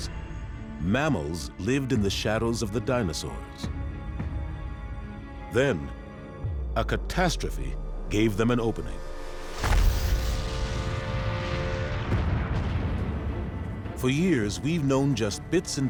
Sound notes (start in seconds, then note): 9.4 explosion thunders